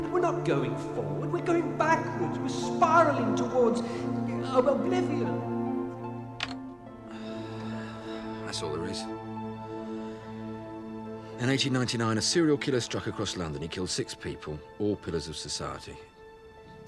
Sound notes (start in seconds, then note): 6.3 keyboard tapping; 7.1 Sam sighing